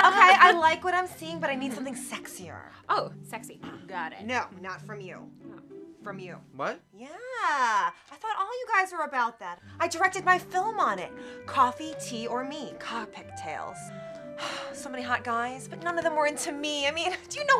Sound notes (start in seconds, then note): 14.3 sighs